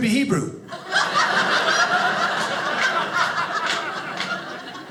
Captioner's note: audience laughing